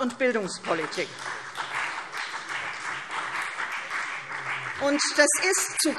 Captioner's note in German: Beifall CDU und BÜNDNIS 90/DIE GRÜNEN